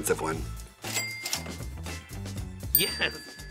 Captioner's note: cash register dings